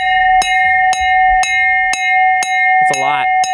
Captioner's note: bell rings